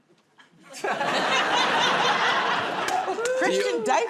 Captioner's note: laughter